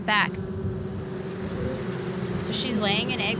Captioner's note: bees buzzing